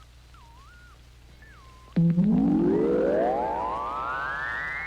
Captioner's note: radar pulsing